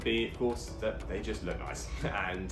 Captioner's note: chuckles